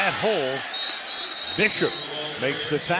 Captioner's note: whistling